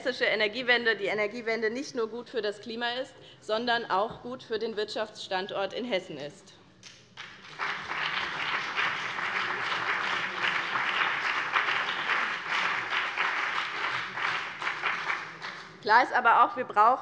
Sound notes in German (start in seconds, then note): 6.8 Beifall BÜNDNIS 90/DIE GRÜNEN und CDU